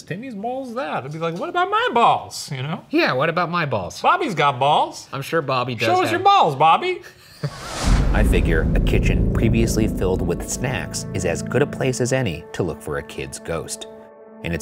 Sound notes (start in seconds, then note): 7.1 laughs